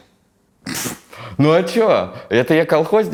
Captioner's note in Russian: Дудь прыскает